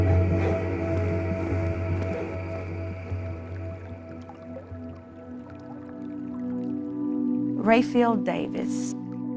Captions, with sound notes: (light music) (water trickling) - Rayfield Davis.